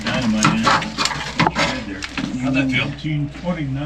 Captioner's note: men chattering; metal clanging